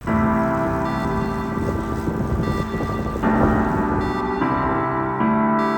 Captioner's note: bike peddaling sounds